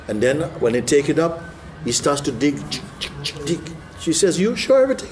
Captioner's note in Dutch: maakt geluiden van het graven